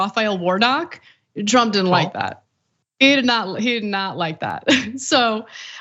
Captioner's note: laugh